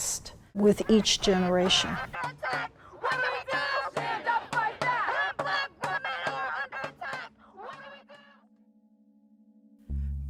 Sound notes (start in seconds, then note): 2.3 crowd chanting: "When Black women are under attack